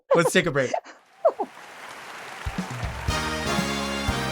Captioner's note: Marguerite laughing; audience applauding; upbeat music; audience applauding